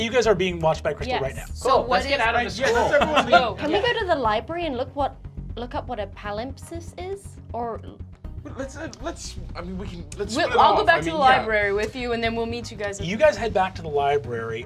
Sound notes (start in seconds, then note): 8.6 stuttering